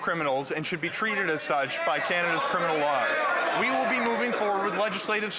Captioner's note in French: voix de l'interprète